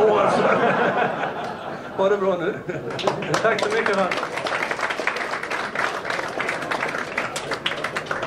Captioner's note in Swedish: Skratt